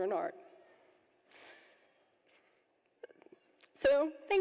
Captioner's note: chokes up with emotion